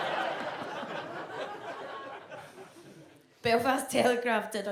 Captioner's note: audience laughs